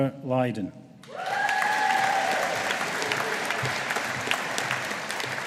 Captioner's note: audience applauding